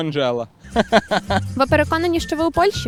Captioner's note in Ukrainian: сміється